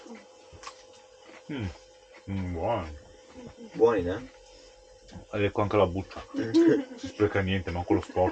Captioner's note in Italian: Risate